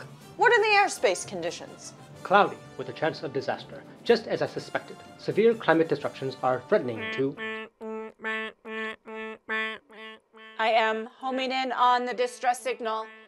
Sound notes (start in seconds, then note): 7.5 alarm beeping